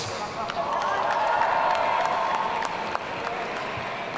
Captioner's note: audience cheering